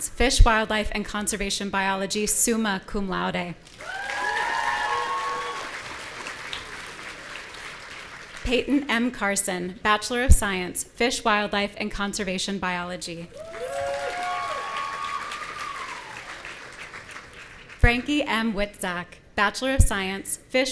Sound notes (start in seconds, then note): 3.7 audience cheering; 13.3 audience cheering